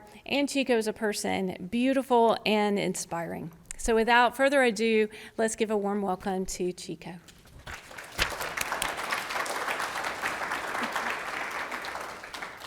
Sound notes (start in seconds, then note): 7.6 audience applauding